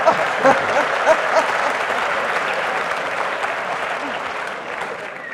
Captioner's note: laughs; audience applauding